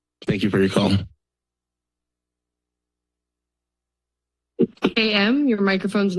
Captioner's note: silence